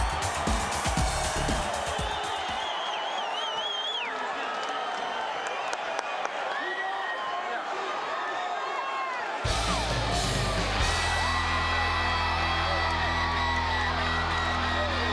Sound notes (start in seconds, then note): 3.3 crowd whistling; 9.4 intense rock theme music